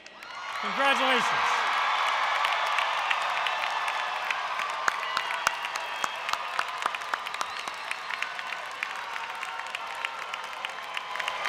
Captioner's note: applause